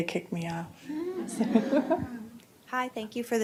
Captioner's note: laughter